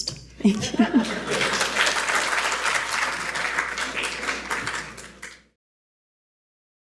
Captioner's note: everyone laughing; attendees applauding